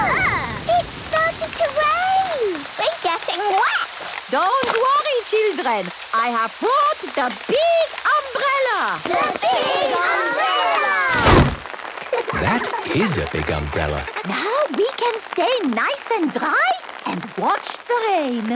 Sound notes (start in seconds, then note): 12.0 laughter